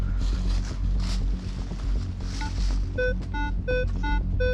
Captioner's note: beeping